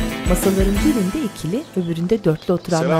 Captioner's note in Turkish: Kuş cıvıltısı